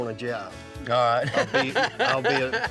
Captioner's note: chuckling